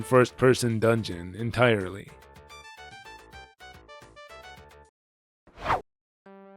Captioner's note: whoosh